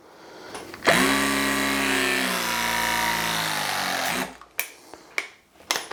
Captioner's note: press gun vibrates loudly